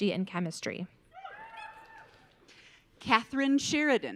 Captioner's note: audience cheering